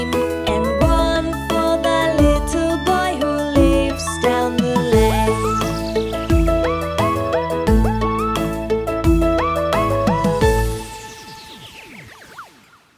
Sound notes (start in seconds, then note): 6.1 beeps mechanically; 6.1 bright music